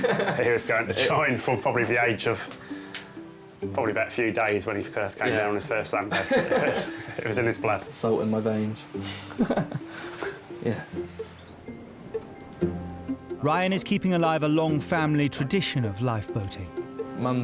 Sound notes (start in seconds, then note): 9.0 laughs